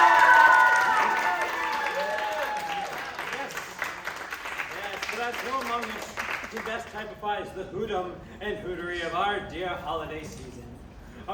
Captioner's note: applause